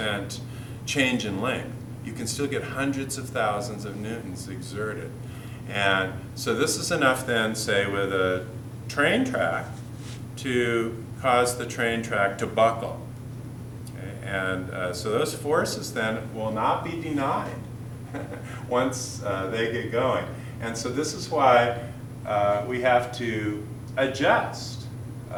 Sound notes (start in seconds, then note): 18.0 chuckle